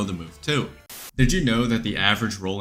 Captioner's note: static